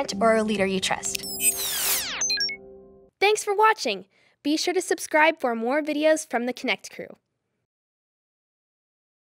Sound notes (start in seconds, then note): 1.2 screen squeals